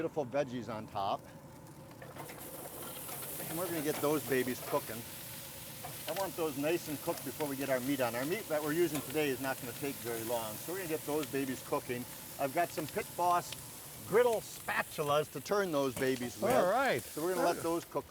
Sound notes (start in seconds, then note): 2.9 vegetables sizzling